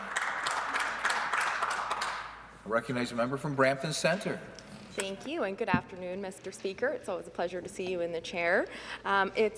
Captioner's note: some Applause